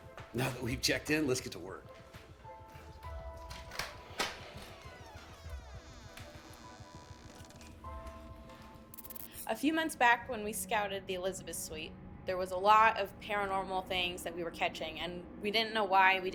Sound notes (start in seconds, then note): 3.2 door unlocks; 5.1 door creaking